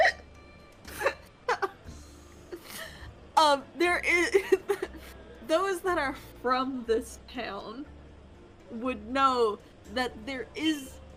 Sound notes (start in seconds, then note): 4.3 laughs